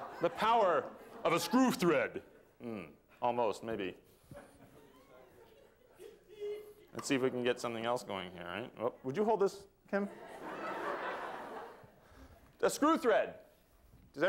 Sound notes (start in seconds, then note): 10.1 laughter